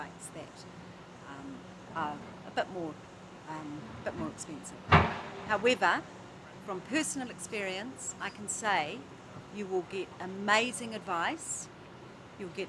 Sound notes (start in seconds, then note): 4.9 clangs